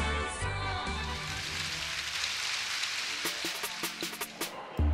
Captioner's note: audience applauds